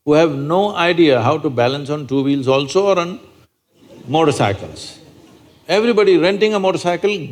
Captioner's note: laughter